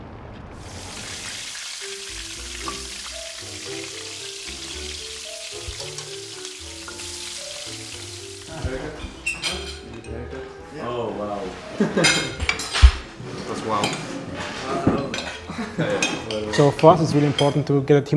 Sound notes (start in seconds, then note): 0.5 pan sizzling; 11.8 caps laughs